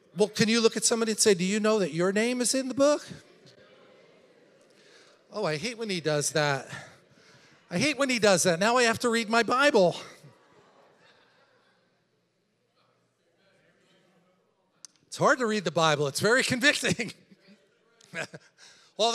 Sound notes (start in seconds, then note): 3.8 congregation chattering; 18.1 laughs